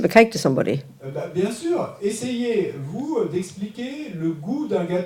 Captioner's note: French